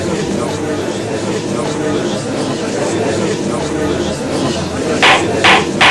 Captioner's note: gallery chattering; gavel slams!